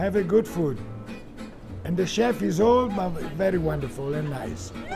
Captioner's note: laughing